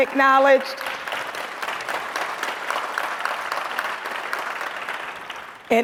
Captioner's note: audience applauds